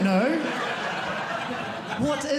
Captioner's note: audience laughing